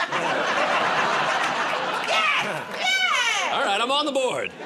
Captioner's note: laughter